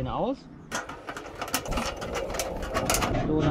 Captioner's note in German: klappern